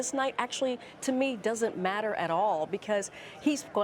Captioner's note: none